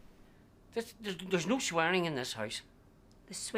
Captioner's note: stutters